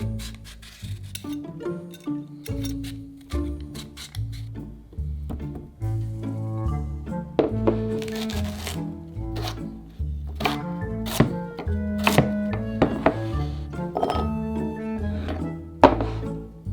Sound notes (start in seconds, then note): 11.0 knife cutting